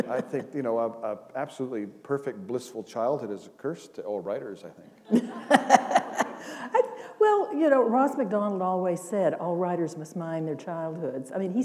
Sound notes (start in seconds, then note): 6.5 laughter